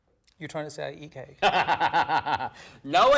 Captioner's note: laughing